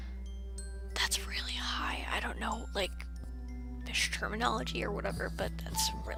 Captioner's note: whispering